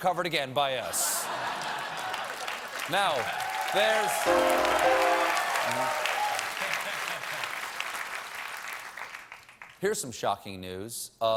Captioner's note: applause